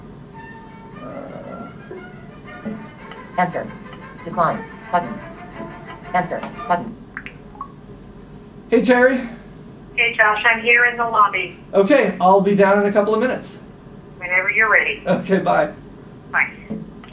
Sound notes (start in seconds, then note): 1.7 over classical music; 7.1 phone sounds